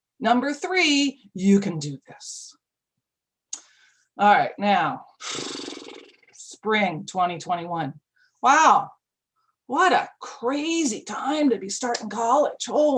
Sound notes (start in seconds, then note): 5.3 flaps lips